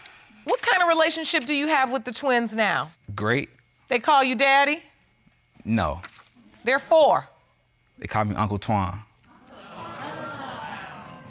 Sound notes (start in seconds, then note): 9.5 audience exclaiming